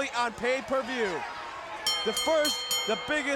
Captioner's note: bell ringing